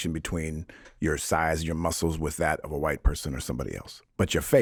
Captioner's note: none